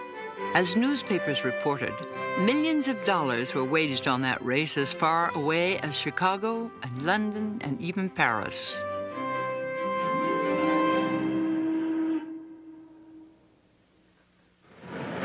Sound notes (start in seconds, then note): 10.8 horn blows